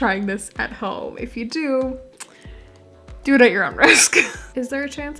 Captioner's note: laughing